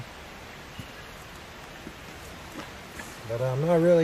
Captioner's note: birds singing